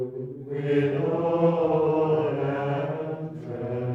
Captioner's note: chanting